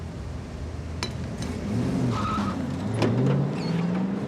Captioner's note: tires squeal